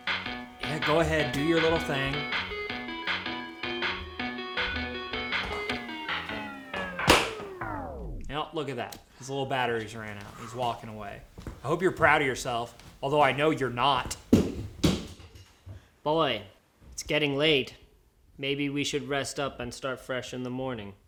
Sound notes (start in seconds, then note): 2.4 game show music continues; 5.4 speaker malfunctions; 7.1 game show music ends; 14.2 thuds